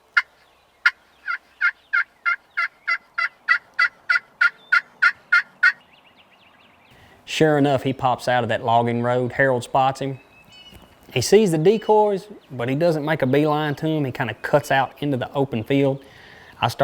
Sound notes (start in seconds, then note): 2.3 multiple turkey calls continues